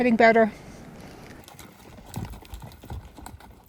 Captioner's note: horses stomping